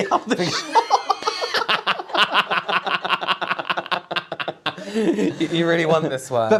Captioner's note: scandalous Laughter